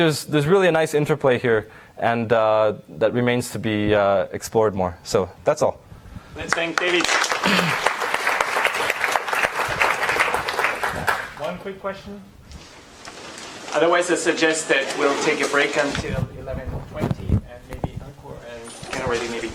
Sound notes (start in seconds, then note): 6.4 applause